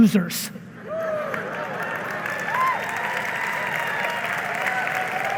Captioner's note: audience applauding